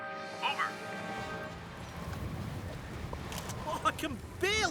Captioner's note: wind Blasting